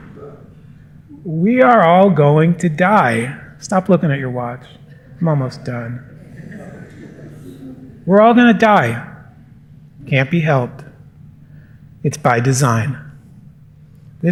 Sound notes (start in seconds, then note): 6.3 chuckles